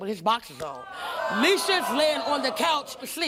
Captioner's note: audience groaning